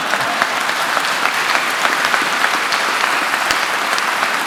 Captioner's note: audience applauding